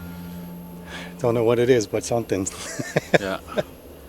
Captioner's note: chuckles